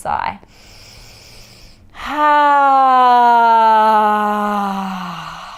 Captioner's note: inhaling and sighing